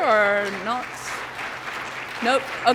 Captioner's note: applause